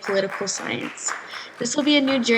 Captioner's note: claps